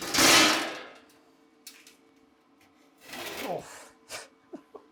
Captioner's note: metal clanking; chuckles